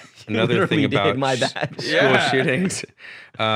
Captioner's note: chuckles